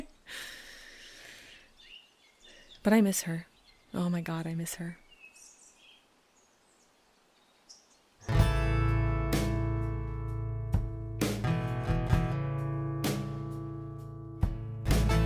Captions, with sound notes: (inhales) But I miss her. Oh my god I miss her. (light guitar music)